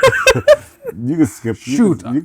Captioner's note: laughing